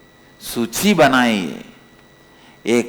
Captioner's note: hindi